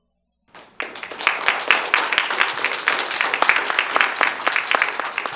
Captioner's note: applause